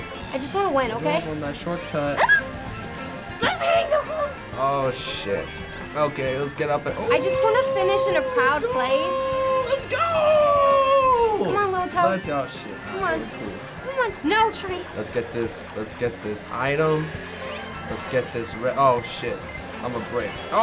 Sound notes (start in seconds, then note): 2.1 shrieks